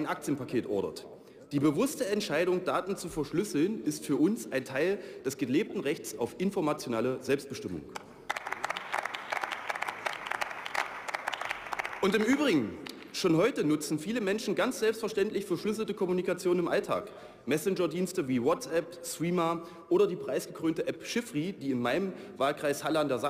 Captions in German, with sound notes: ein Aktienpaket ordert. Die bewusste Entscheidung Daten zu verschlüsseln ist für uns ein Teil des gelebten Rechts auf informationelle Selbstbestimmung. (Beifall) Und im Übrigen, schon heute nutzen viele Menschen ganz selbstverständlich verschlüsselte Kommunikation im Alltag. Messenger Dienste wie WhatsApp, Threema oder die preisgekrönte App Chiffry, die in meinem Wahlkreis